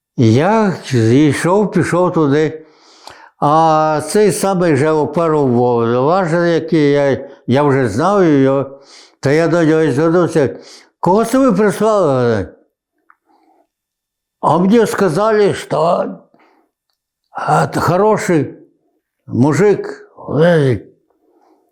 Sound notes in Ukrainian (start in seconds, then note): 14.4 Російською